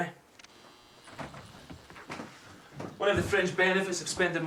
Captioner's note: electric razor buzzes